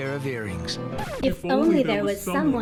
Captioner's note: record scratches